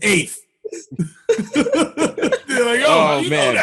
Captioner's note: laughter